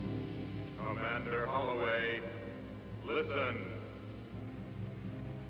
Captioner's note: male Voice